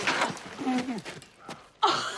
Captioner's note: homer splutters